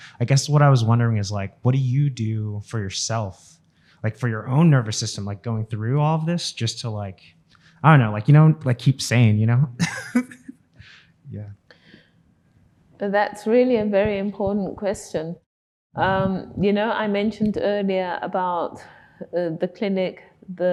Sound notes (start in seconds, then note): 9.8 audience member laughing